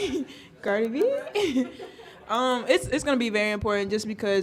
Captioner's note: laughs